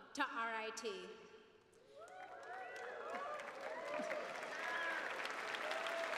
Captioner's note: applause